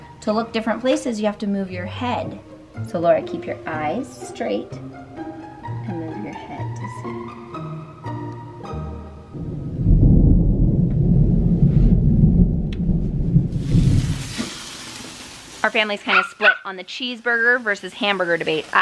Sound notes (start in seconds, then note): 9.3 thunder booms; 13.3 grill sizzles